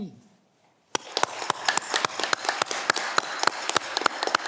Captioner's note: audience clapping